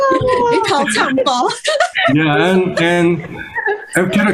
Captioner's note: Hablan en chino